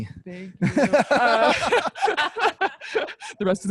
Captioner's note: laughs